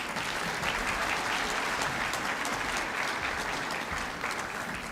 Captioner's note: applause